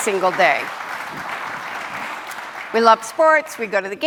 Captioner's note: audience applauding